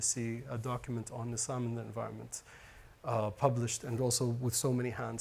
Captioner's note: speaks Arabic